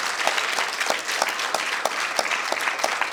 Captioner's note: applause